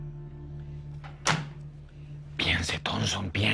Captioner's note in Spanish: Sonido al colgar